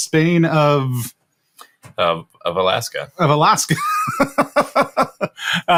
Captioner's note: laughs